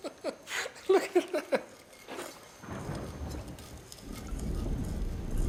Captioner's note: laughs